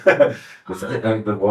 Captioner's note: laughs